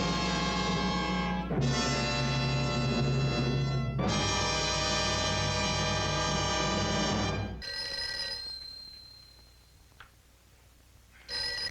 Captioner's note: phone ringing